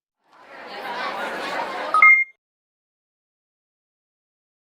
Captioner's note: crowd chattering